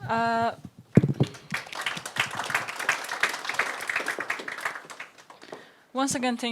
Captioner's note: audience applauds